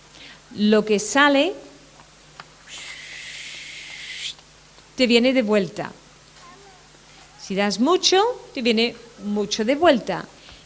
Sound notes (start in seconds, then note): 2.7 whistle